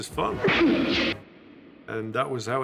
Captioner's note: groan echoing